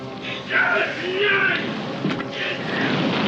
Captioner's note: Sam screams in pain